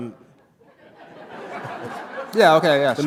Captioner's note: laughter